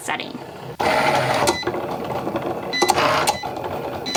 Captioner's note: machine whirring